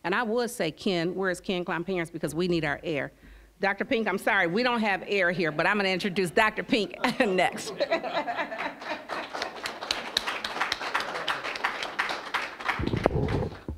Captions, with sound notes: And I would say Ken-- where is Ken Klomparens? Because we need our air. Dr. Pink, I'm sorry, we don't have air here, but I'm gonna introduce Dr. Pink next. (audience laughing) (applause)